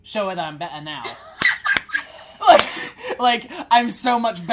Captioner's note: laughter